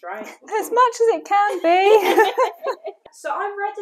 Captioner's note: laughter